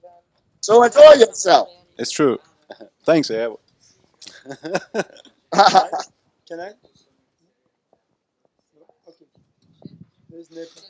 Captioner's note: they laugh